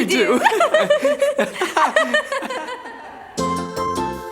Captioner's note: laughing; upbeat music